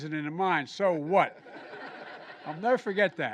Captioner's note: laughter